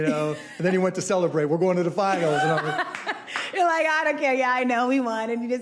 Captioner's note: laughs